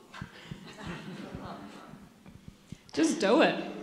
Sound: audience laughs

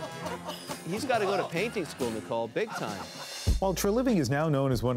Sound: laughter

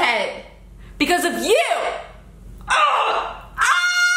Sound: screams

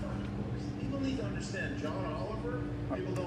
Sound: televizyon sesi

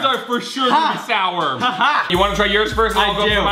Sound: laughs

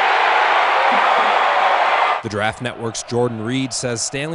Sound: crowd

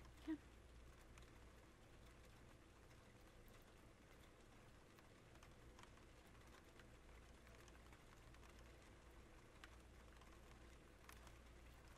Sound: rain sounds

